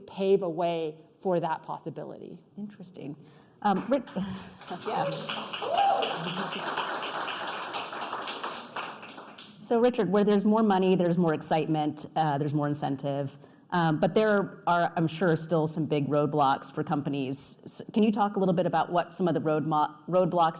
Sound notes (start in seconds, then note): 8.3 applause